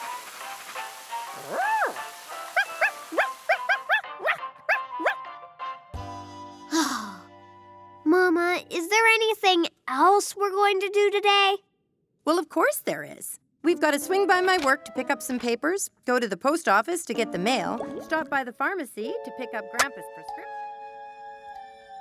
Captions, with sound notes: (Sparky barking) - (sighs) Mama, is there anything else we're going to do today? - Well, of course there is. We've got to swing by my work to pick up some papers, go to the post office to get the mail, stop by the pharmacy to pick up grandpa's prescription.